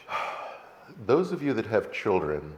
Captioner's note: sighs